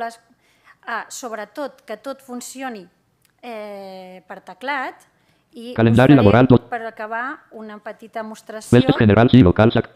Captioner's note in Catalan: veu del lector de pantalla